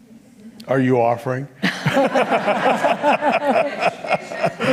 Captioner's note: laughs